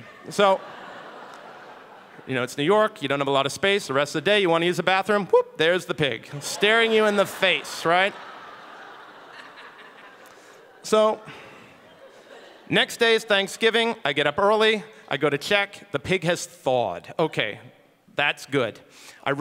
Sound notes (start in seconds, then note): 8.2 audience laughing